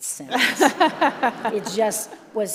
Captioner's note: all laugh